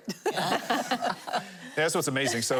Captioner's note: laughing